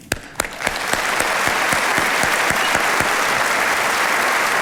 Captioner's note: all applauding